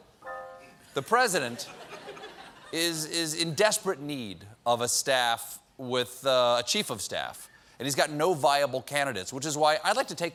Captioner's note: piano riff; laughter